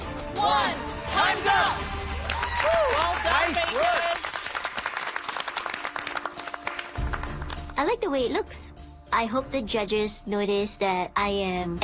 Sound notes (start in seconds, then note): 2.3 cheering and clapping; 5.4 clapping